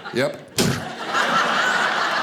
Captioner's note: clunking